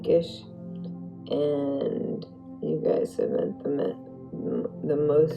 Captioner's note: slurring